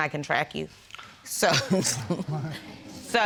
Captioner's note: chuckles